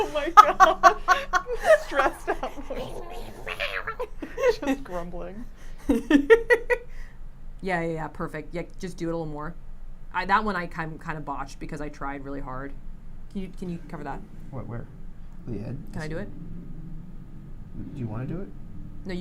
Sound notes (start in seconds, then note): 0.0 laughs; 1.1 grumbling; 5.8 laughs